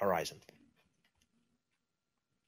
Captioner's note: pause